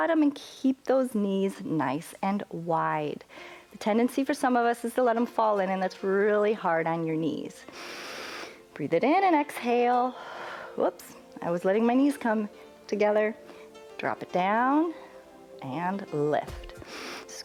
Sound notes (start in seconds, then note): 7.7 inhales